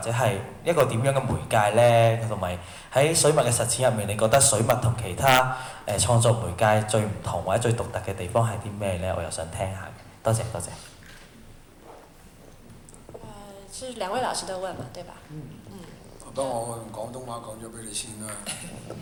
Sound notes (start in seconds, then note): 14.0 Mandarin; 16.9 Cantonese